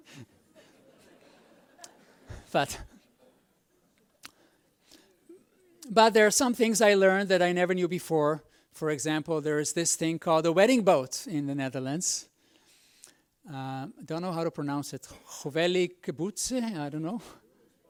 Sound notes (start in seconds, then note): 0.4 audience laughs; 15.3 speaks foreign language